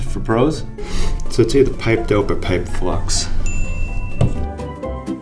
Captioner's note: ding